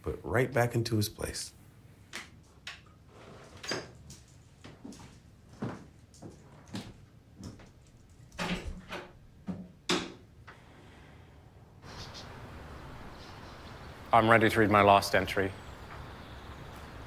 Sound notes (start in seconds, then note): 5.7 footsteps; 7.9 door rattling; 11.8 birds chirping, trees blowing